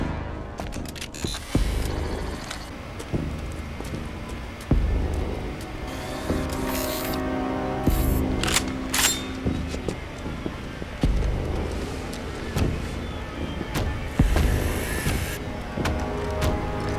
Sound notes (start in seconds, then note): 8.9 gun cocks